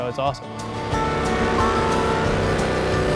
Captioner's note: motor rumbling